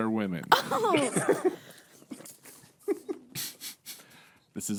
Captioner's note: laughing